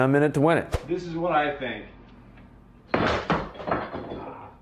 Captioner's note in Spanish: traqueteo de botellas